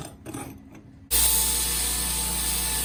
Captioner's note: grinding